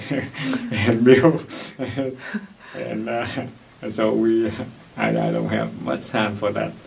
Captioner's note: laughs